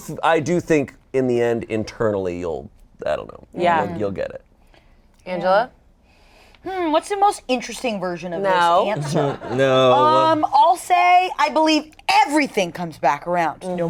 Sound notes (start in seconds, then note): 8.8 laughs